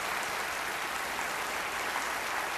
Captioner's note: applause